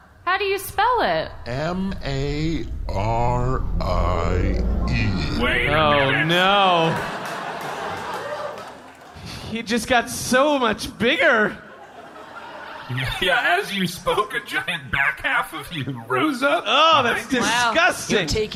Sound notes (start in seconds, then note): 2.2 voice deepening